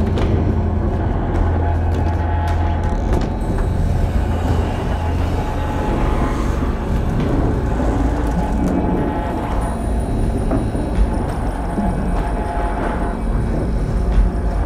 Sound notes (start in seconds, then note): none